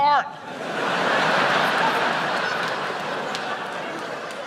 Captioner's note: crowd laughs